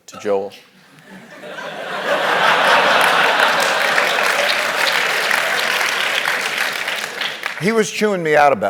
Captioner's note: laugh; applause